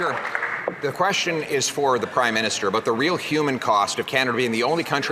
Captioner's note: some Applause